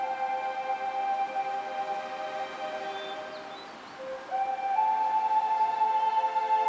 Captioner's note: river rushing